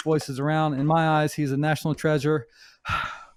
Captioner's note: exhales